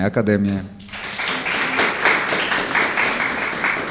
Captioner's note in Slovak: aplauz